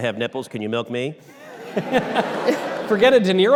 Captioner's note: all laughter